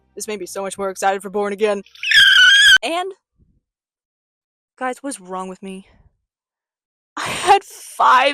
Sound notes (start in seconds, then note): 1.9 kettle screech